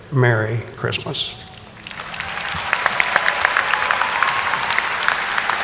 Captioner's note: audience applauding